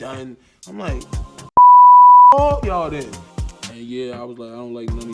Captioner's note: beep